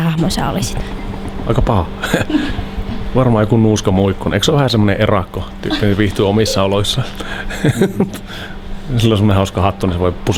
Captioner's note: laughs